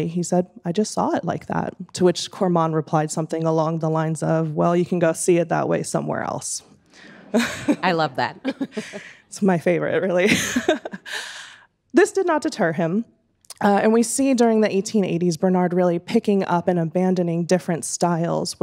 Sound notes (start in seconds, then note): 11.3 laughing